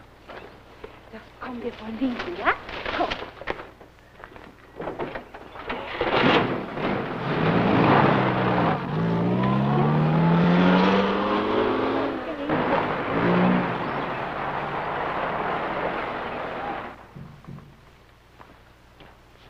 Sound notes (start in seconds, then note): 0.6 foreign language; 4.7 clanking; 6.4 engine running